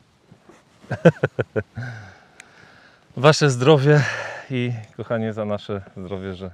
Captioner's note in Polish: śmiech